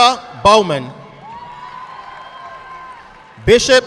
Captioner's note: audience clapping